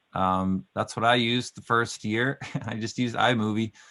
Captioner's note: laughing